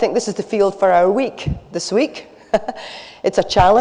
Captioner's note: laughs